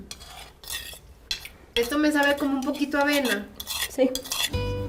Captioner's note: speak Spanish